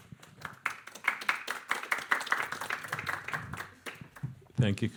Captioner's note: audience applauding